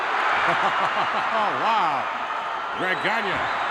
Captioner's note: chuckles